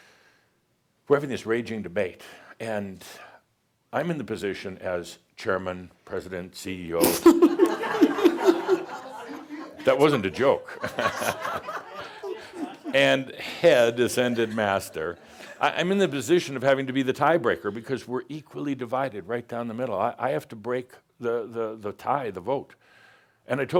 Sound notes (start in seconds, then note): 7.0 laughter; 10.6 chuckles